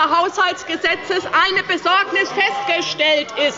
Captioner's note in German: Anhaltende Unruhe